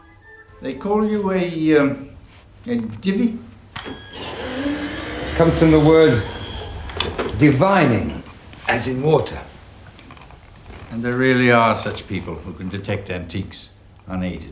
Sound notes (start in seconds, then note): 3.9 wheelchair motor running